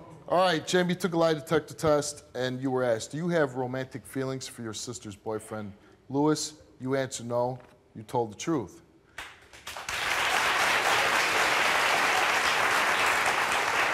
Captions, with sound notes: - All right, Jami took a lie detector test, and you were asked. Do you have romantic feelings for your sister's boyfriend, Louis? You answered no. You told the truth. (audience applauds)